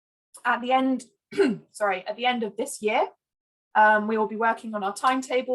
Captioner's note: clears throat